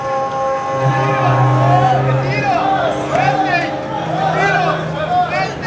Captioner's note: dramatic music; men chatter in foreign language